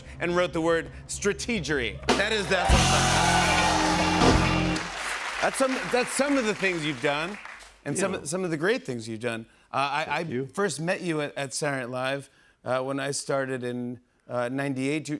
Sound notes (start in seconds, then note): 2.0 cheers and applause